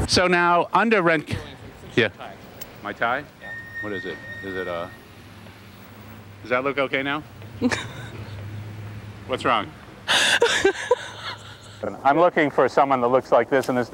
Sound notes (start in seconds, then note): 7.6 laughing; 10.1 laughing